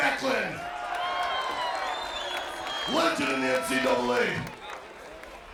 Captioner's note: applause